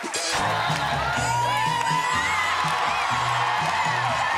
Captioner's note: cheers and applause